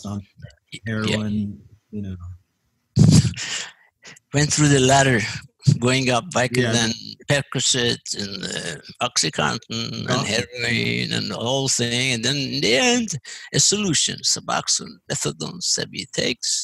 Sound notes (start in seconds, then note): 2.4 laugh